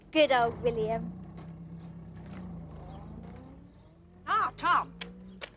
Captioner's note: laughs